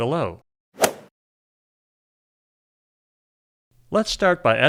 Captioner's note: golf swing sound effect